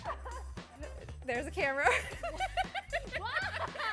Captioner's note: laughs